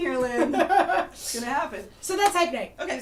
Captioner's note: laughter